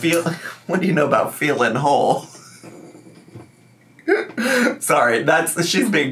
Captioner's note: laughs